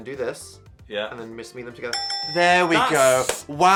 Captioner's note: bell dinging